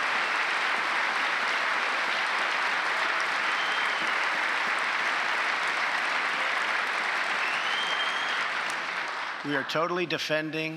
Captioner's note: applause